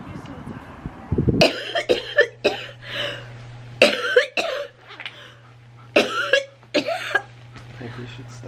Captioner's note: coughing